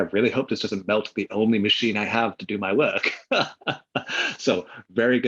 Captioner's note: laughs